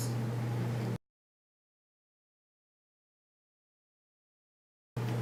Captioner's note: silence